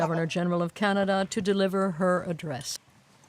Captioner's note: speaking French